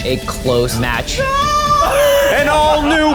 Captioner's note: screaming